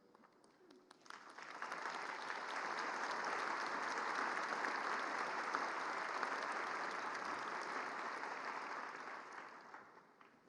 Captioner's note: applause